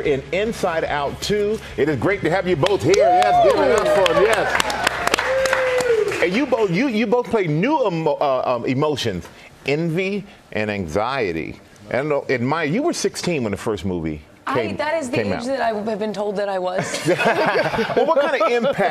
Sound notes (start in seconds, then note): 6.6 applause